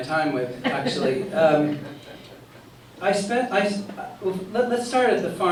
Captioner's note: laughter